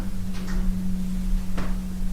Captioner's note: click